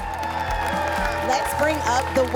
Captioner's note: audience cheers